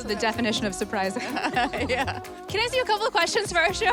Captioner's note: laughter